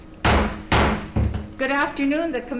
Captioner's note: gavel pounds twice